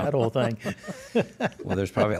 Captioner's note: laughs